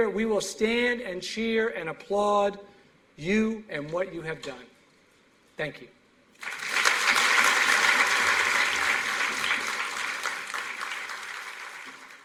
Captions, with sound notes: We will stand and cheer and applaud you and what you have done. Thank you. [APPLAUSE]